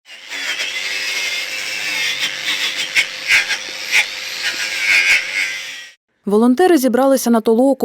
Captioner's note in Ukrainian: жужжить болгаркою